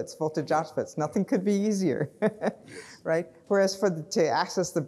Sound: chuckles

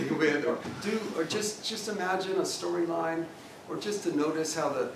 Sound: laugh

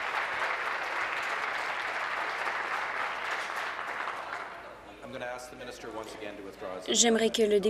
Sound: applause

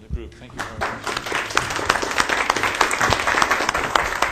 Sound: applause

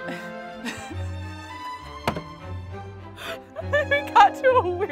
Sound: laughing

